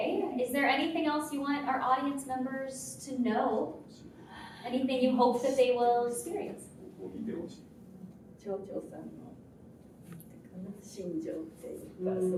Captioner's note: speaking in Japanese